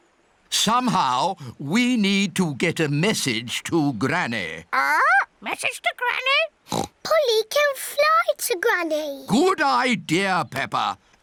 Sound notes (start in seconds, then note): 6.7 oinks